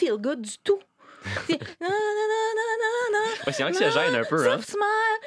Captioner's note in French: Elle fredonne la chanson